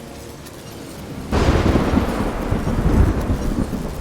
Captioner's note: thunderclap